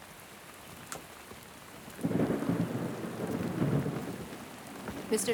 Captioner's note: thunder rumbling